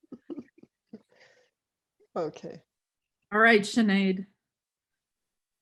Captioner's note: laughs